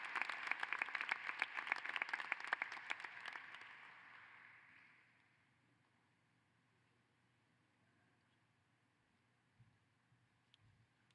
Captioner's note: applause